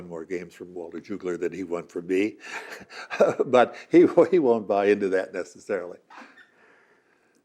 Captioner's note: laughing